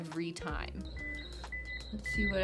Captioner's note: device beeping